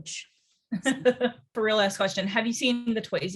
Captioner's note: interviewer laughs